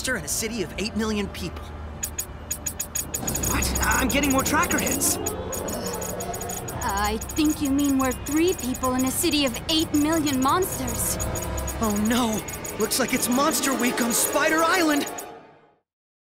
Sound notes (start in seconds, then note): 1.9 ticking